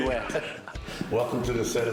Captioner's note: laughter